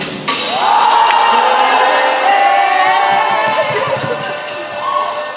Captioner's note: cheering